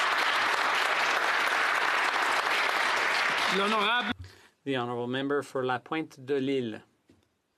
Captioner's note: some Applause